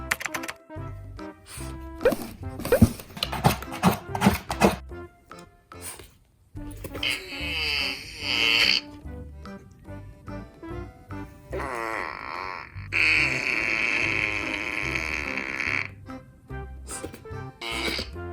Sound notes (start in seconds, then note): 6.7 farting Sounds; 11.4 farting sounds